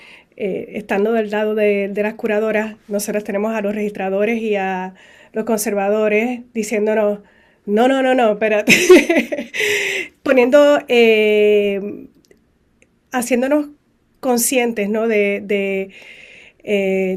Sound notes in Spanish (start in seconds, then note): 8.6 risas